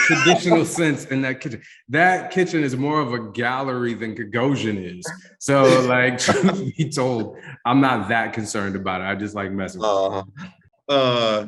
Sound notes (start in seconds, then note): 0.0 laughing; 5.6 chuckles